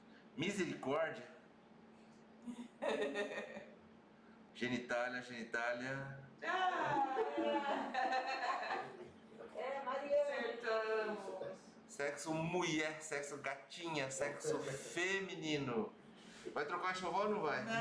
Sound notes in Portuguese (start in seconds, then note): 2.5 risos; 6.4 gritos de emoção